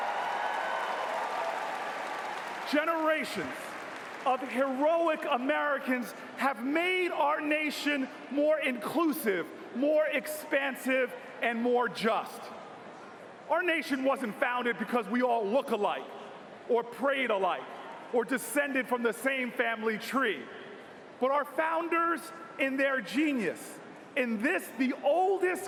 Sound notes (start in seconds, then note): 4.4 cheers and applause